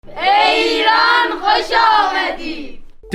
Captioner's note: speaking in foreign language